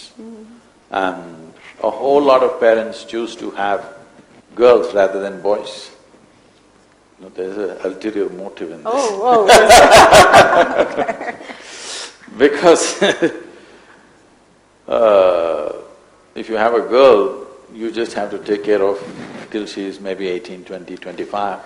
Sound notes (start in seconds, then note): 9.3 laughs